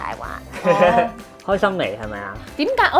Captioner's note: laughing